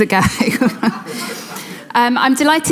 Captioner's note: audience laughing